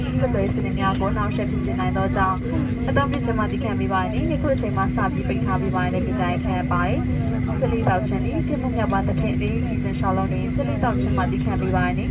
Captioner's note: cabin crew announcement in Burmese